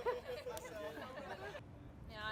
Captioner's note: laughter